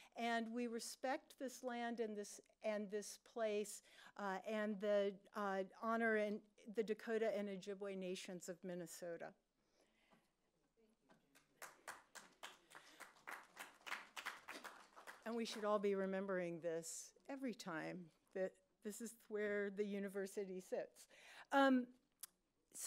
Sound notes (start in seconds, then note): 11.3 applause